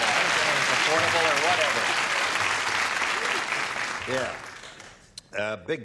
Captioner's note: applause